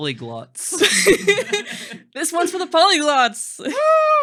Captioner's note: laughing